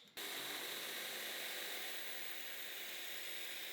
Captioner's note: machine whirring